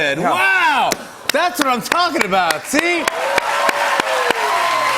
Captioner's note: cheers and applause